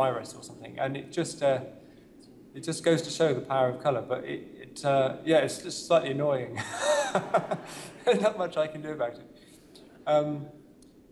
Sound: laughter

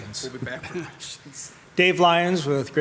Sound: laughs

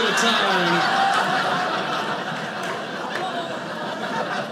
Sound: audience laughing

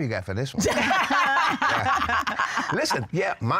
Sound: laughter

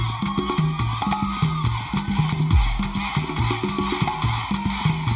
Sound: audience chanting

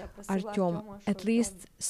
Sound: speaking Foreign Language

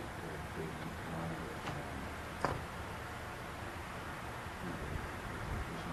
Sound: people chattering faintly

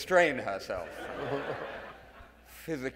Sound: audience laughing

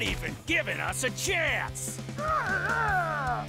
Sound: cackling

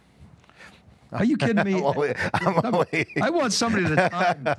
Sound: laughs

